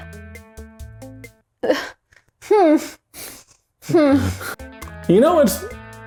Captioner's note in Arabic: ضحك